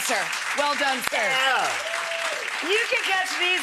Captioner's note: audience applause